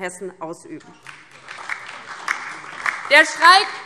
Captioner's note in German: Beifall